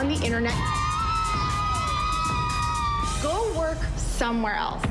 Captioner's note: cheering